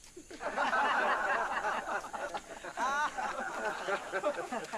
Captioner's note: laughter